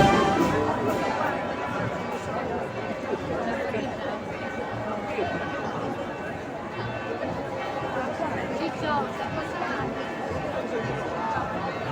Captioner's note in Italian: Campane